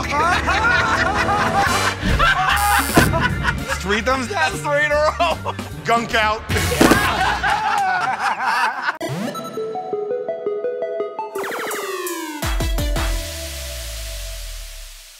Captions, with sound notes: [ Laughter ] [ Buzzer ] -Three thumbs-down. -That's three in a row. Gunk out! [ Laughter ]